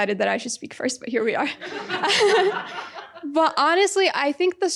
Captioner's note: audience laughing